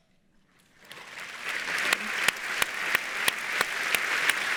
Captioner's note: audience applauds